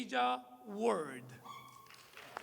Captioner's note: applause